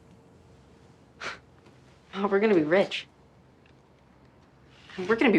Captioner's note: scoffing